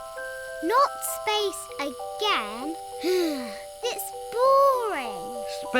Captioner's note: sighs